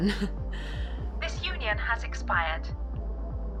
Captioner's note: robotic Voice